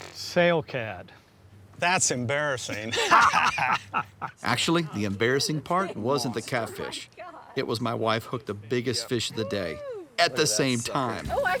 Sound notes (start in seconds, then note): 2.7 laughs